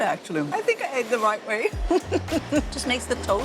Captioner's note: laughs